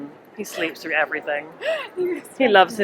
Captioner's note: laughs